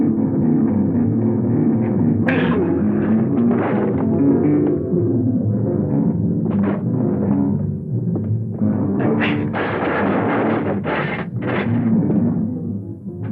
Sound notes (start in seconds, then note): 0.1 tense instrumental music; 9.6 clattering